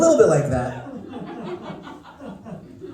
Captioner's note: laughter